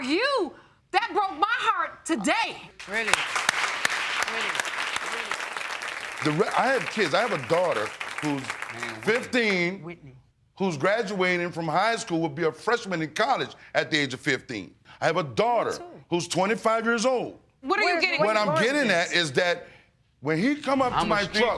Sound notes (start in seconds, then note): 2.8 audience applauding